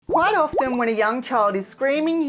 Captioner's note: graphics popping